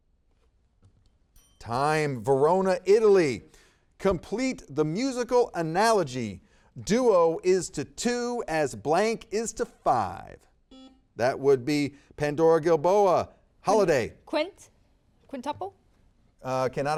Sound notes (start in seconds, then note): 1.3 timer dings; 10.7 buzzer beeps